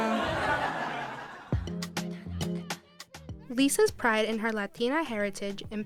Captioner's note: laughter